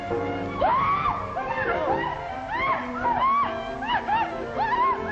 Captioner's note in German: Kate schreit und lacht